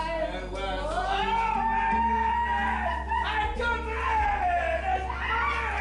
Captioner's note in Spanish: Exclamaciones